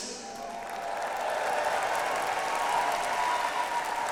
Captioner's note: audience applauds